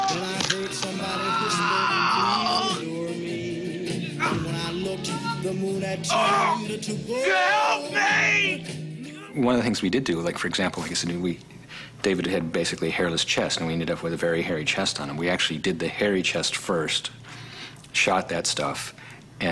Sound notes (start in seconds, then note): 6.0 groaning